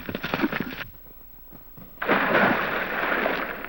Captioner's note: water splashes